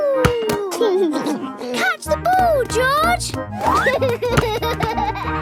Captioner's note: giggles